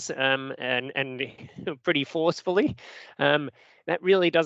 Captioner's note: chuckles